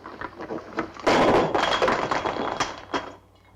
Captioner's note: crash